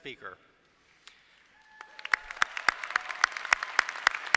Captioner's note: applause